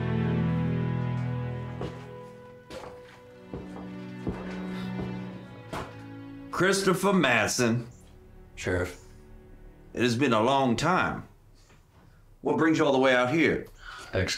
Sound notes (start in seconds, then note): 1.6 footsteps thudding